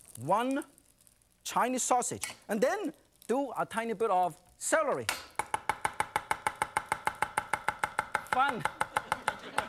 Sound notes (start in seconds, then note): 5.2 knife tapping